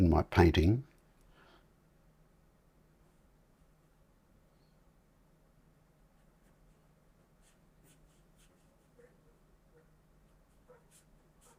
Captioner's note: silence